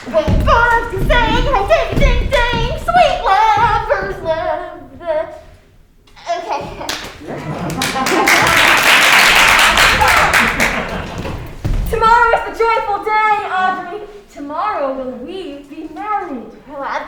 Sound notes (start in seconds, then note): 6.8 crowd applauding